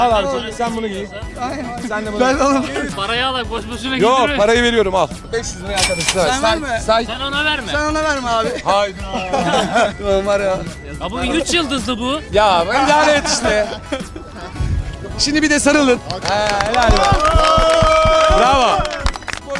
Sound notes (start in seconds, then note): 9.0 laughters; 16.0 applauding